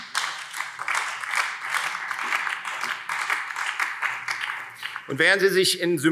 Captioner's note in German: Beifall Freie Demokraten und BÜNDNIS 90/DIE GRÜNEN